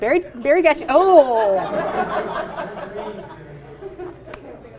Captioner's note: audience laughing